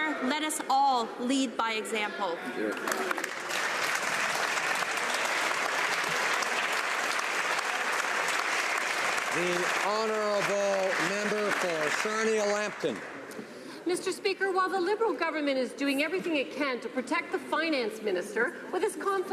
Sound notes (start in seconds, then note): 7.5 some Applause